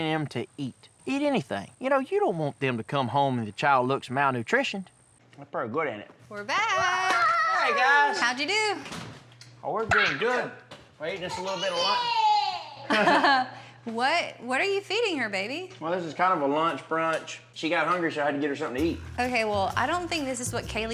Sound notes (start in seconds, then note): 7.5 exclaims